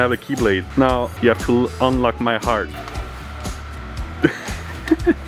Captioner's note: laughs